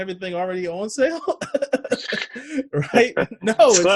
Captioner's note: laughs